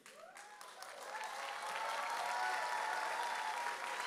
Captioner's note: audience cheers